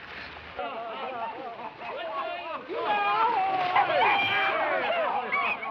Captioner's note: screaming and clamoring